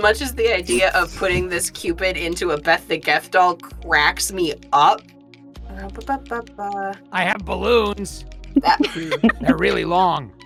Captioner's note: EVERYONE laughs